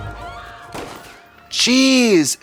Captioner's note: gun fires